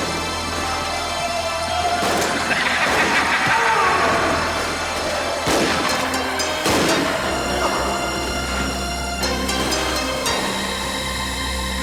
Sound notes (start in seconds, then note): 1.9 gun fires; 1.9 Twister laughs; 3.6 town member groans; 5.4 guns fire